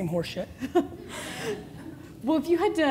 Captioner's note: laughing